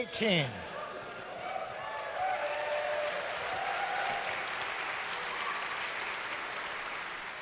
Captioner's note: audience cheers